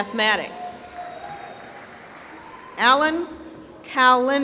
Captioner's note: applause